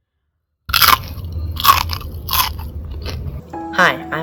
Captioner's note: Crunch